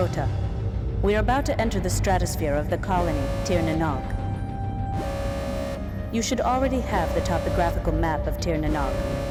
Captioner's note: game audio